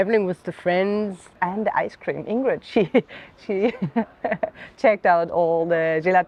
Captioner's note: laughing